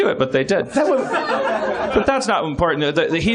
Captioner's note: chuckles